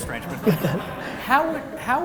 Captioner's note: laughter